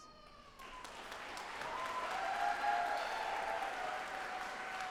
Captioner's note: audience applauding